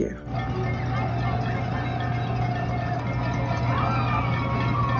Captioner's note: people clapping and cheering